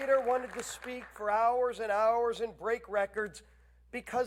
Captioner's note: applause